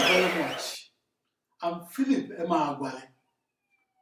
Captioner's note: wild applause and cheering for 22 seconds